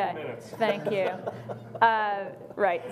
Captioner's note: laughing